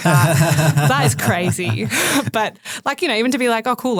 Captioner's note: man laughs